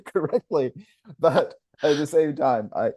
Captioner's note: laughs